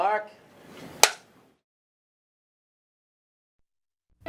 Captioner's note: board taps